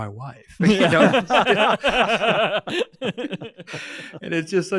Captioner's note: all laughing